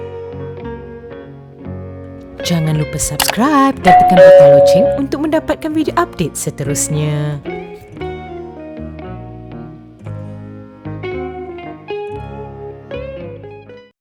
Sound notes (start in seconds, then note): 3.8 bell sound; 7.7 background music